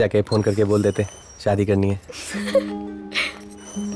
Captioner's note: Laughs